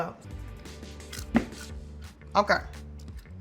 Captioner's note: popcorn crunching